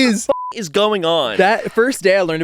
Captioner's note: beep